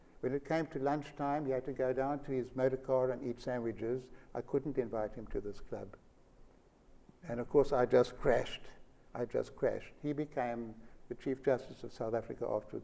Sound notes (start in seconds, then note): none